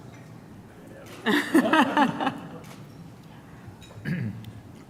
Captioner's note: laughter